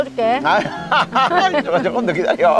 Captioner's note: both laughing